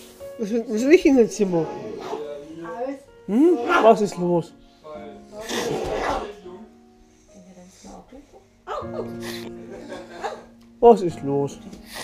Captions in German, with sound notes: Willst du nicht in das Zimmer? Was ist los? (Schniefen) Was ist los?